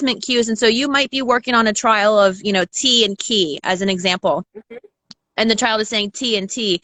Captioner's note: mhmm